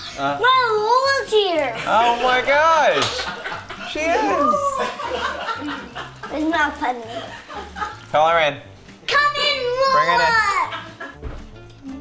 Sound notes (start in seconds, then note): 1.4 laughter